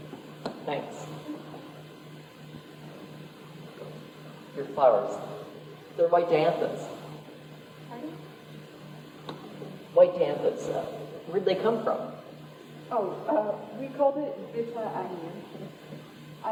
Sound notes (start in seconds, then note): none